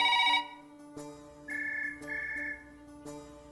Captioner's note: Line ringing; Phone rings